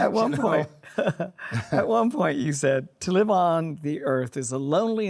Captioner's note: both laugh